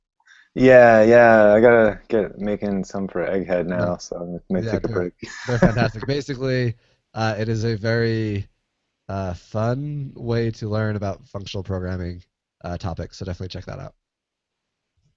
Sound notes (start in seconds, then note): 2.9 laughing